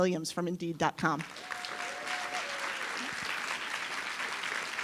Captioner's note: audience applause